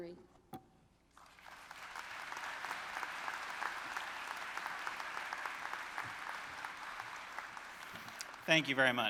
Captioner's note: applause